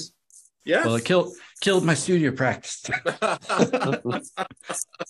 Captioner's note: laughs